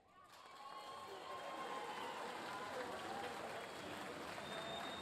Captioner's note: audience cheering; audience applauding